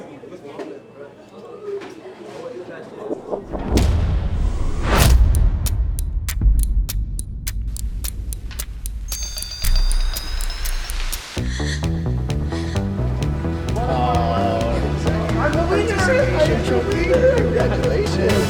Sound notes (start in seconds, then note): 8.4 bell ringing; 11.4 upbeat music